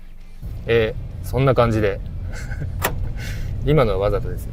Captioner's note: laughs